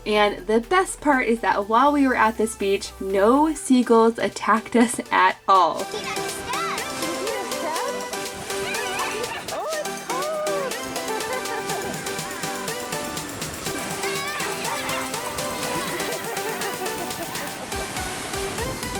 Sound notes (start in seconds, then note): 8.9 child shouts; 12.9 laughs; 15.2 laughs